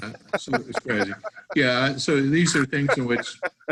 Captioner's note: laughing